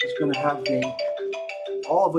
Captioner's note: ringtone